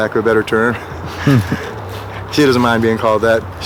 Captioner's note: laughs